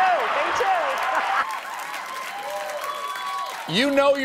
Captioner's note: applause